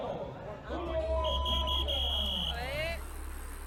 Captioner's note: whistle blowing and fuss